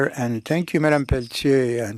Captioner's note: speaking French